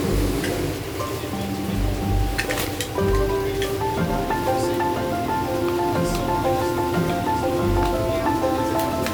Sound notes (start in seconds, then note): 0.0 relaxing music continues; 0.0 people chattering